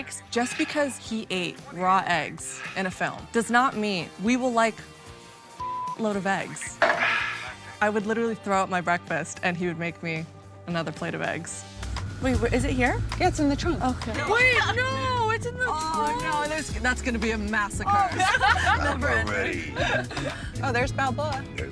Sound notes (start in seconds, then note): 5.6 beep; 7.0 sighs